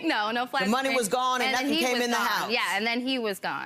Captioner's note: laughs